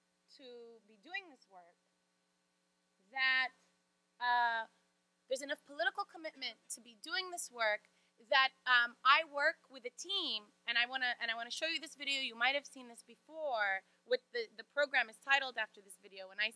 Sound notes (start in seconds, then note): none